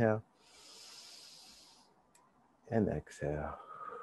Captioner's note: inhale deeply; exhale deeply